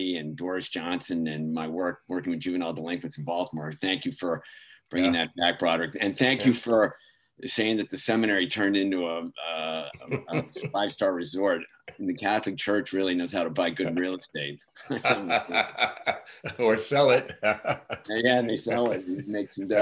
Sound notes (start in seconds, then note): 14.8 laughs